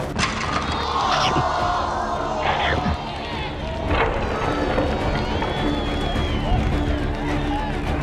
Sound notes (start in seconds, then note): 0.4 booing; 1.2 chomp; 3.6 cheering